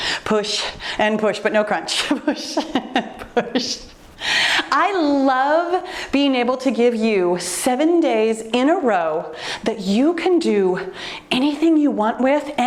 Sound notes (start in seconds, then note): 2.0 laughs